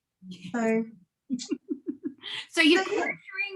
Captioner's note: laughing